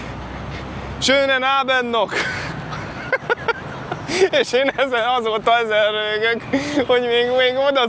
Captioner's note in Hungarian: nevetés